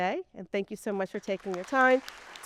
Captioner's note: people clapping